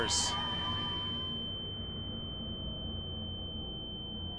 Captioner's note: flat-line noise